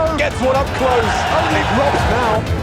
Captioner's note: crowd cheering